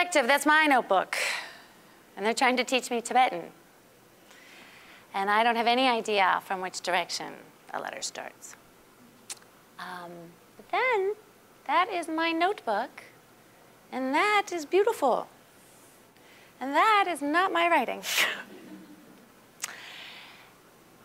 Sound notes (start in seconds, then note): 18.4 all chuckling